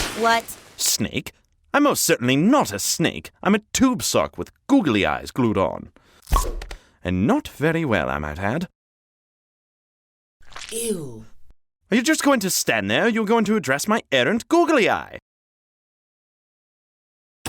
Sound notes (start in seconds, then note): 6.3 plop; 10.4 squish